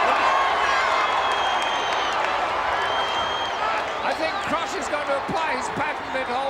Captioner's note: applause